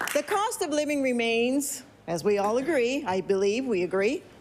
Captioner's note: applause